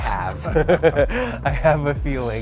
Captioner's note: both laughing